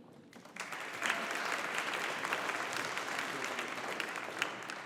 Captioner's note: audience applauding